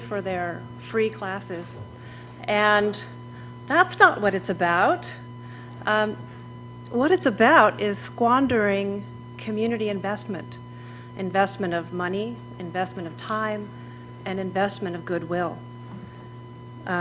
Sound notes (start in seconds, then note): none